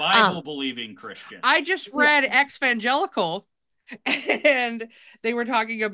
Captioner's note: chuckles